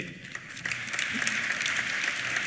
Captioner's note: applause